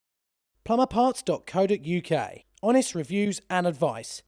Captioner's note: voiceover